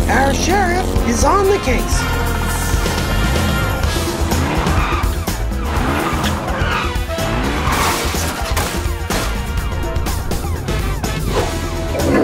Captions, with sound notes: Our sheriff is on the case. (exciting music) (sirens blaring)